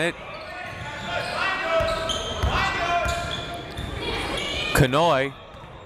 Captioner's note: crowd members shouting